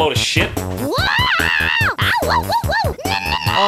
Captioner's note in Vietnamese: nổi giận